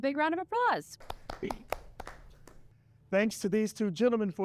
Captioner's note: scattered claps